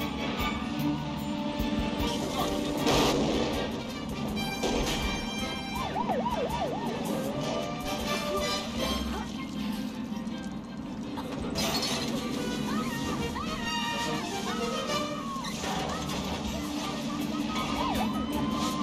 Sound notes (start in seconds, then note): 4.9 explosion; 7.5 police siren; 14.4 goonies scream